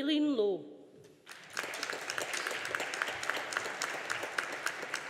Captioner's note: audience applauding